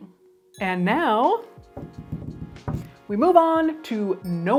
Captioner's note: hands thumping